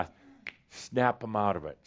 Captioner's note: snap!